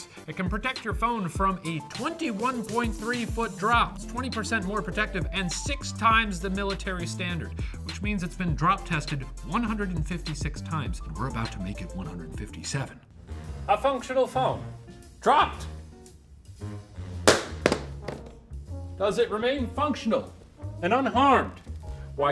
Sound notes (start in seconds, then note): 17.2 phone thuds